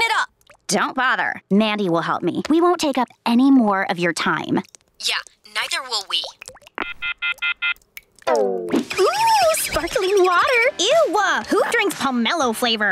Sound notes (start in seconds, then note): 6.8 beeping